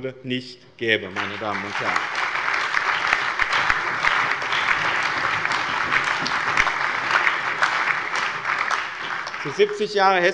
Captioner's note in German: Allgemeiner Beifall